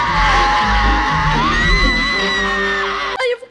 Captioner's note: shrieking